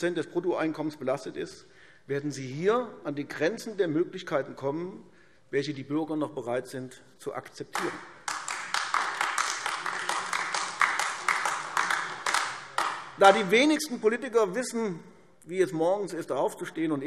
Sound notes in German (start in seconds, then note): 7.7 Beifall AfD